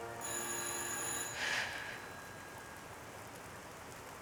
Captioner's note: telephone rings